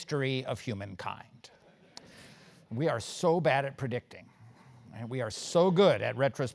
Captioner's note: laugh